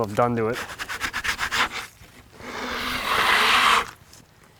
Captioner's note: tool scrapes